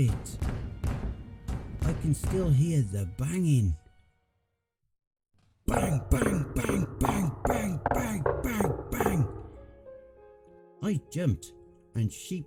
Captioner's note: bang bang bang bang bang bang bang bang